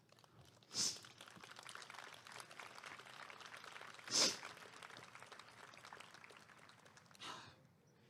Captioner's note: applause